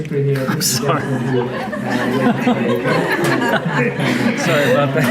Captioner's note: audience laughing